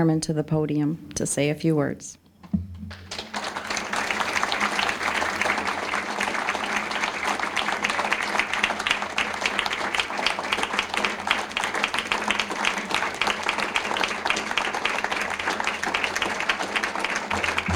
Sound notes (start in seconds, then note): 2.9 applause